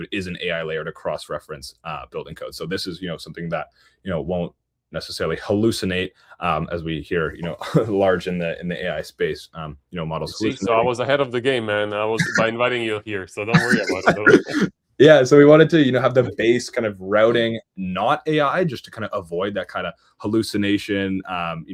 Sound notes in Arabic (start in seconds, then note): 13.5 ضحك